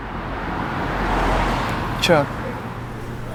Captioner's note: traffic humming